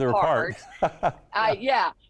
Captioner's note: laughing